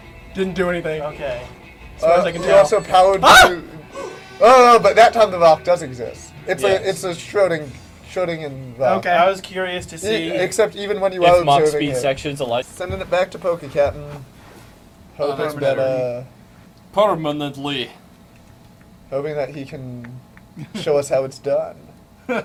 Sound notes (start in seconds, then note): 3.1 yelps